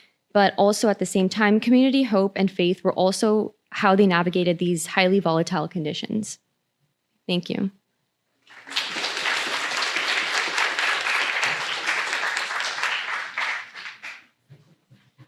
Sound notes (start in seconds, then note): 8.4 applause